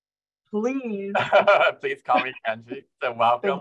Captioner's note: laughs